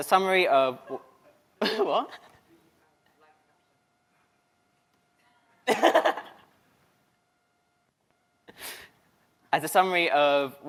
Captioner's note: laughter